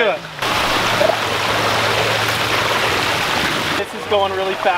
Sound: water rushing

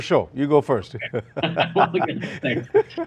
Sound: laughs

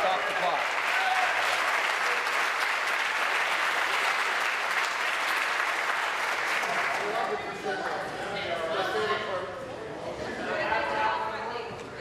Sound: applause

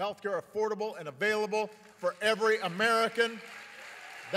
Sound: applause

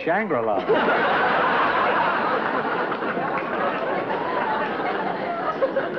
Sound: laughter

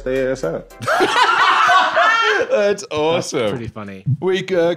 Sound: laughs

